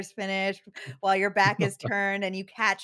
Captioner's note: laughs